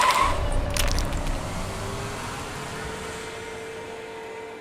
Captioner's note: engine revving